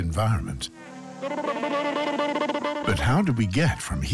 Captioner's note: cartoon character noises